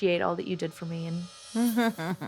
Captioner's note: chuckles